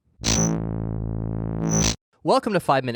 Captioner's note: buzzing sound